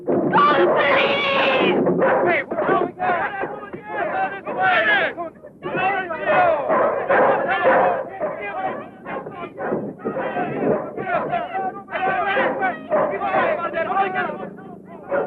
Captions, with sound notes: Call the police! (people clamoring) (barking) (clamoring)